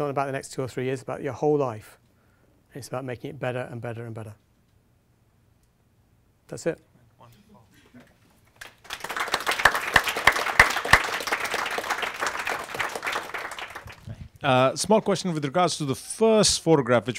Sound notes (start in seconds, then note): 8.4 audience clapping